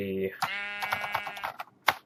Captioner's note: sheep baaa; typing